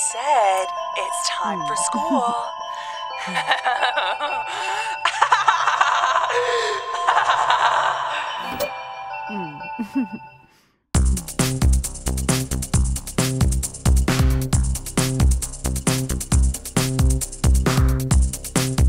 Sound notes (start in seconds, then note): 3.2 Sheila chuckles; 3.2 John laughs; 9.2 Sheila chuckles